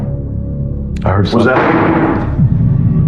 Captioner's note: dodooror slalamsms